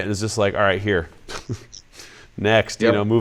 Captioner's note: laughs